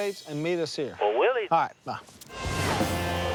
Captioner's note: on phone